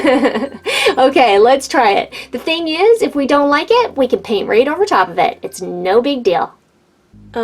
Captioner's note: giggles